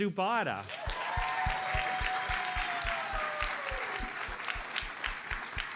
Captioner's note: audience cheers and applauds